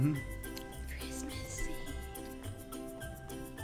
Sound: whispers

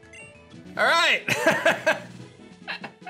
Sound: laughs

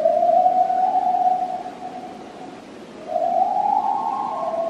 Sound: coyote howling

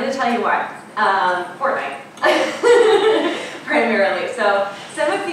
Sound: laughing

